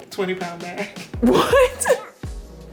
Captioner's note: laughing